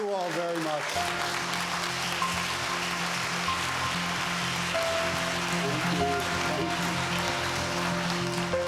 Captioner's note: applause